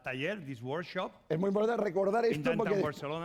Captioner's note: speaking spanish